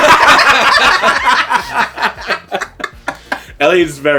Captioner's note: laughing